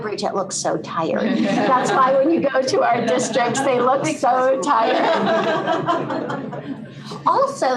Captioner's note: laughter